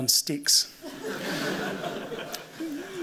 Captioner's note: laughter